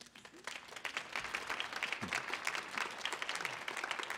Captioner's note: audience clapping